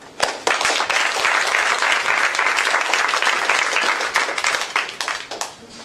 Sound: applause

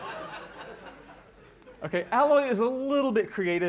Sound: laughter

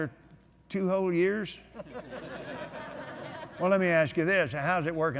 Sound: laughter

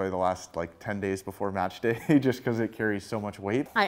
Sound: laughter

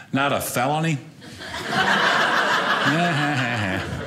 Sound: audience laughing

